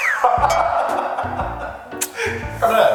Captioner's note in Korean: 땅 꺼지는 한숨